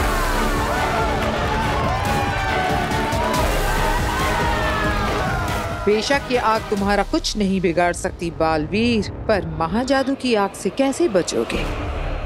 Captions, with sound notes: [crowd cheering] [crowd cheering] Undoubtedly, this fire cannot harm you, Baalveer. But how will you save yourself from the fire of Mahajadu?